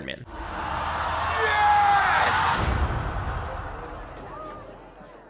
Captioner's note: applause